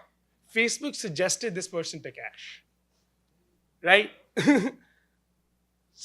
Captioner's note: laughs